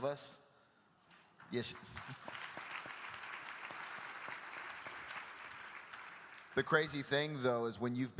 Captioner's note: applause